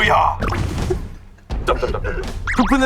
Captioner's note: the original writer can't stop laughing